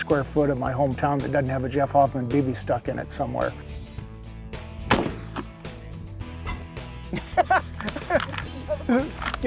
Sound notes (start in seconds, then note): 4.9 gun fires; 7.0 laugh